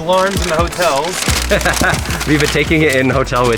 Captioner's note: laughs